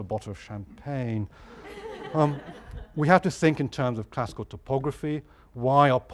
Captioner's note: laugh